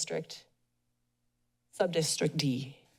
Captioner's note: pause